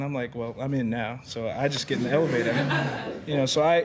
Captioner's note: students chuckling